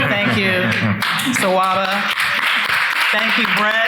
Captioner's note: people clapping